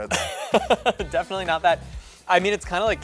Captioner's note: laughter